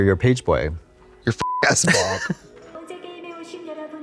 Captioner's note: beep